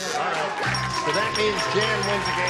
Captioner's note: buzzer; ding